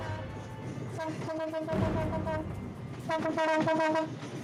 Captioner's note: train hooting